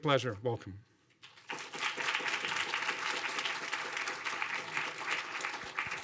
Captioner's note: audience applauding